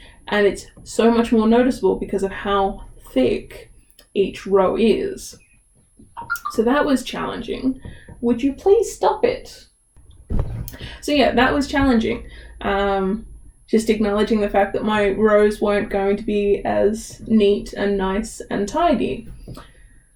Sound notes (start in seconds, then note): 6.2 phone beeps again